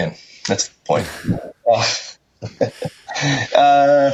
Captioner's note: laughing